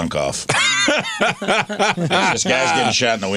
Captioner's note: laughing